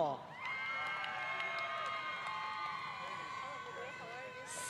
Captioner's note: applause